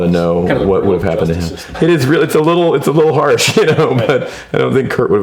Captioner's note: laughs